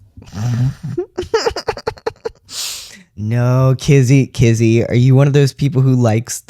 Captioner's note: laughter